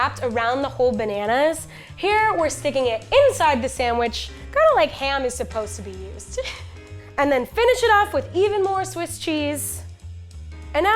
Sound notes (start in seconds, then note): 6.4 laughing